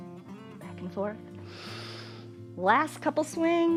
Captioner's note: inhales